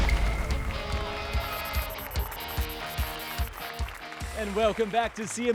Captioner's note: applause and cheers